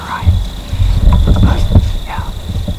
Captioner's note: whispering